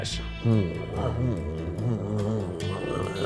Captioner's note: growls